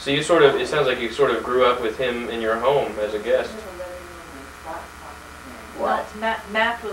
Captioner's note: confused